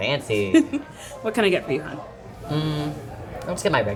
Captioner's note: chuckles